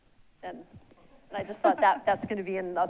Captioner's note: audience laughs